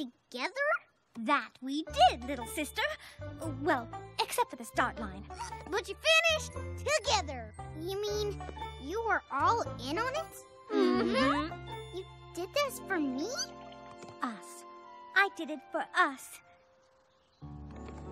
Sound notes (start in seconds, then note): 10.7 chuckles